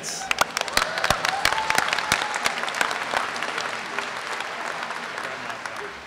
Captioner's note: applause